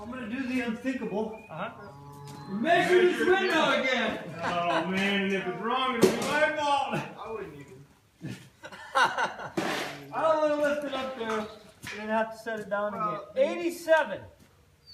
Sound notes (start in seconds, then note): 8.2 laughs